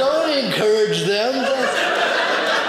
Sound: audience laughing

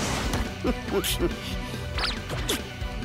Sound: laugh

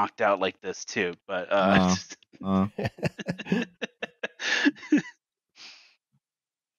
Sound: laughter

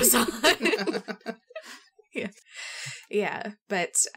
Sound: laugh

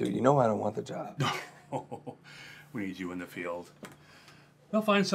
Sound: laughs

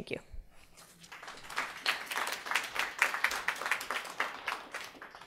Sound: audience applauding

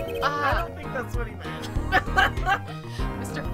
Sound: laughs

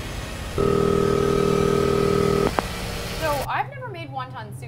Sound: phone rings

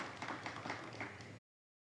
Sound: audience applauds

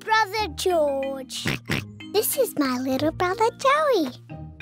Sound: oinks

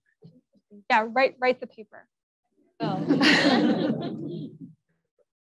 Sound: audience laughs

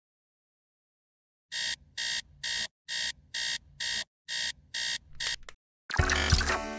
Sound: alarm clock ringing

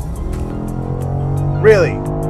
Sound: car engine revving

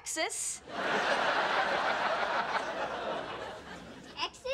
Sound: audience laughing

